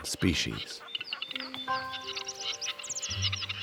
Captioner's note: birds nattering